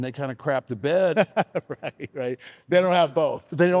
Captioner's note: laughs